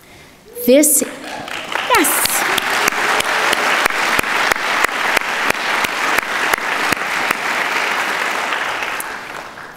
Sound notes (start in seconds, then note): 1.0 audience clapping